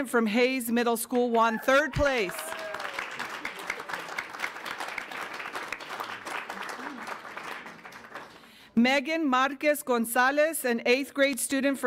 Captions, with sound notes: from Hayes Middle School won third place. (audience applauds) (audience cheers) Megan Marcos Gonzales, an eighth grade student